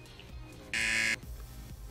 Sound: buzzer

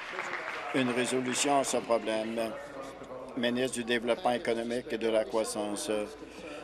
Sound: applause

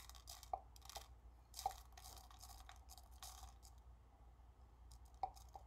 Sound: plastic clinking

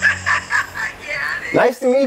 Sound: laughs

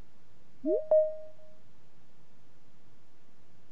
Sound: digital chime

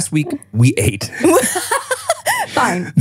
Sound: laughing

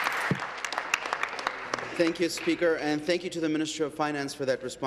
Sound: applause

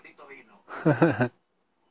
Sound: laugh

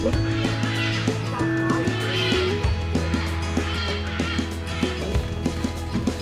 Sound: cackling even more loudly; still cackling background

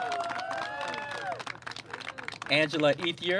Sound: clapping

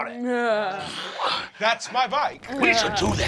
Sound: chuckles

